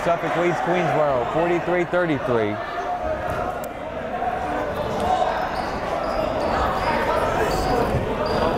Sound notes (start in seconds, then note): 2.9 chattering